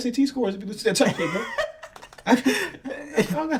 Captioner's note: laughing